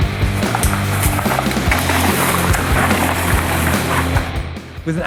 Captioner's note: gravel crunching